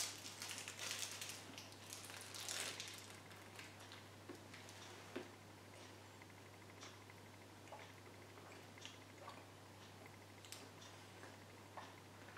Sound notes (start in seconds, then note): 5.0 continues munching